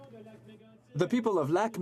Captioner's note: speaking French